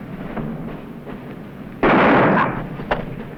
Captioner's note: gunshot